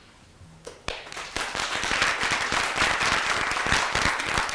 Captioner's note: applause